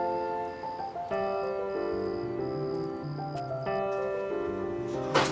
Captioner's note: footsteps crunch; cart rattles; frantic music